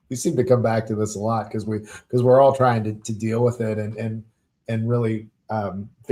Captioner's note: chuckling